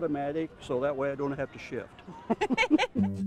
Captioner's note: laughter